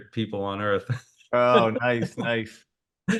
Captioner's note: laughs